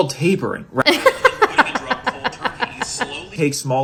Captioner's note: laughs